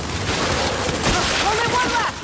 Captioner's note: weapon firing